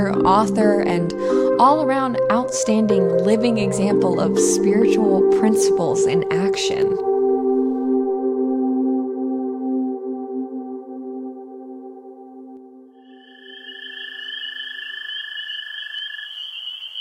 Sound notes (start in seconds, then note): 13.0 insects chirping